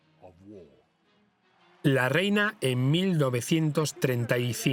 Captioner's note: crowd cheering